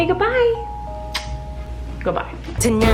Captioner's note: kissing